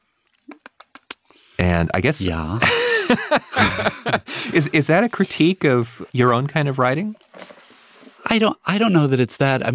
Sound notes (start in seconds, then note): 2.6 laughing